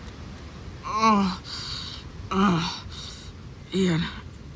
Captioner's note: groaning